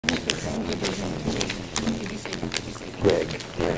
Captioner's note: audio distortion throughout